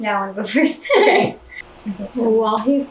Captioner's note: laughter